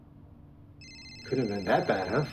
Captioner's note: distant siren wails; phone rings